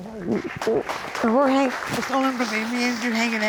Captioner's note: applause